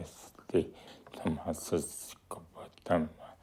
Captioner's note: speaks nepalese language